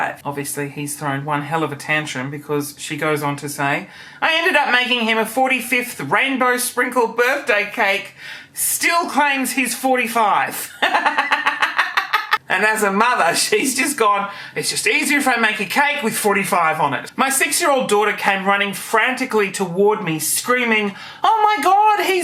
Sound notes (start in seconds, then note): 10.7 laughing